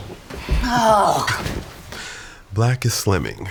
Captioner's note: woman groans